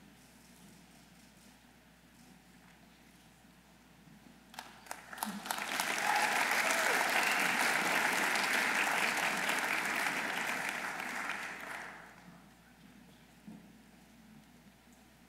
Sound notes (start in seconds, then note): 6.1 audience applauding